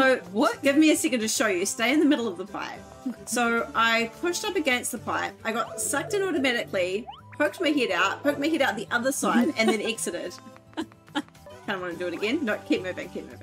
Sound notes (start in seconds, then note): 11.3 laughs